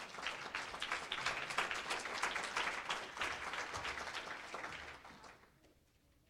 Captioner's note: applause